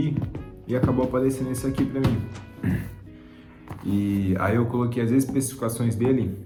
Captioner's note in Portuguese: limpando a garganta